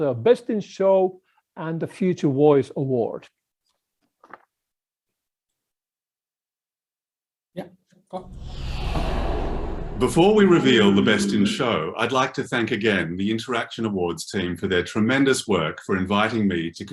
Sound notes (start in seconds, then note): 8.2 air swooshing